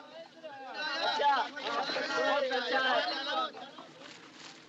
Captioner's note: shouting, Chattering